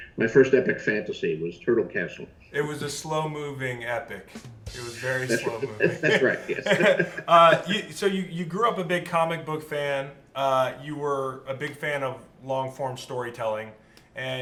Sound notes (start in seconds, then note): 4.6 finishing drum sound; 4.9 both laugh